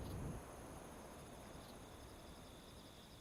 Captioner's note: crickets chirping